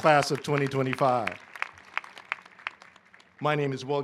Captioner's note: applause